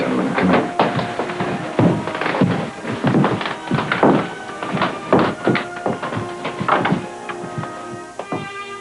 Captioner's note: shoes stomping